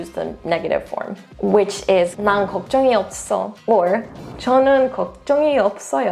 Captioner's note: speaking in Korean; speaks in Korean